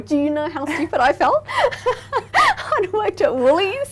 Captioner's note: laughing